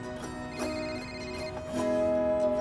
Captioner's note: phone rings